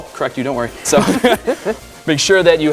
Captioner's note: laughs